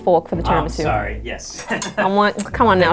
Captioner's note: chuckles